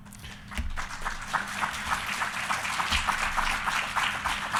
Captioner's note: audience applauding